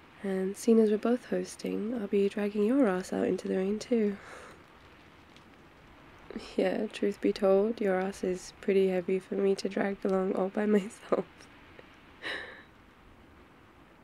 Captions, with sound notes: and seen as we're both hosting I'll be dragging your ass out into the rain too yeah, truth be told your ass is pretty heavy for me to drag along all by myself *laughs*